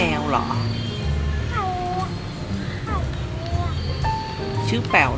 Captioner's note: Bazer’s friend is mimicking a cat's call